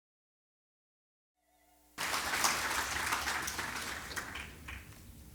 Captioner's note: applause